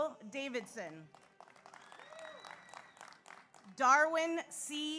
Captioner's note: audience applauds; audience cheers